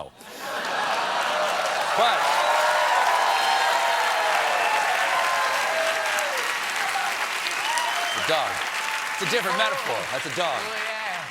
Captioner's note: cheers and applause